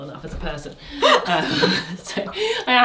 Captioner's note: both laughing